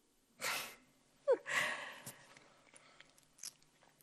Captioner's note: laughs